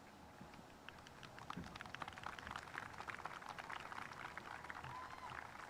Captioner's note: spectators applauding